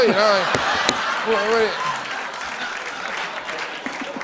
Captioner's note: laughter